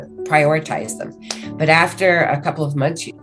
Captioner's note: hands clap